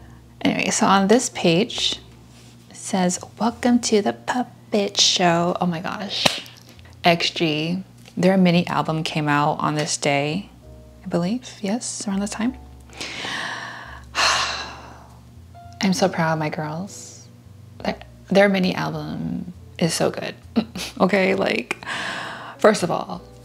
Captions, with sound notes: Anyway, so on this page, it says, "Welcome to the Puppet Show" Oh my gosh *clap* XG. Their mini album came out on this day. I believe? Yes? Around this time? *sigh* I'm so proud of my girls. Their mini album is so good. Okay, like... First of all,